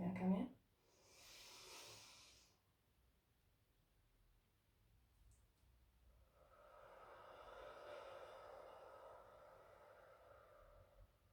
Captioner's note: inhaling and exhaling